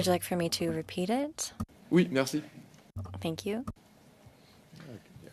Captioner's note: speaking French